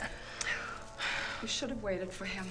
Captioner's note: sighs